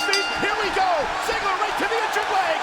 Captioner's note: bell chimes